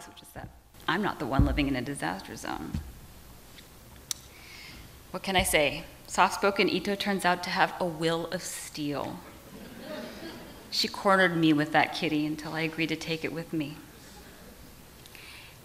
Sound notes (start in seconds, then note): 9.4 audience laughs